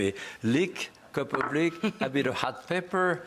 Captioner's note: laughs